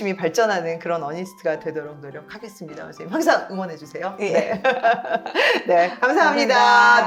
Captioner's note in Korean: 웃음